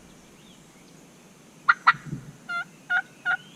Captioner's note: turkey call